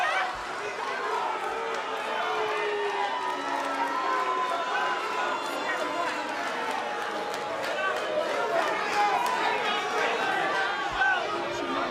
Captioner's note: crowd cheering